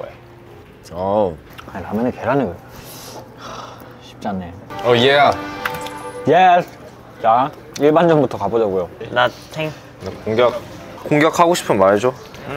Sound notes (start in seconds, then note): 3.4 sigh